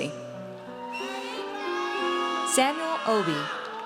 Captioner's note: audience cheers